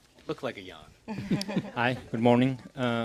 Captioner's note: laughter